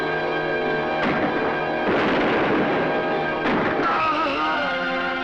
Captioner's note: gunshots fire; Barney moaning